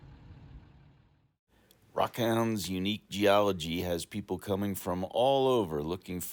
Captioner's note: light wind noise